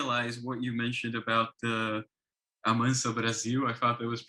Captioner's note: speaks foreign language